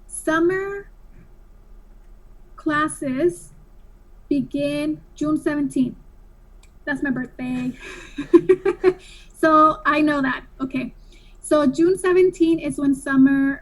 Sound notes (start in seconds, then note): 7.5 laughs